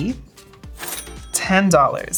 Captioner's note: cash register dings